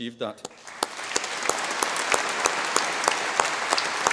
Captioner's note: audience applause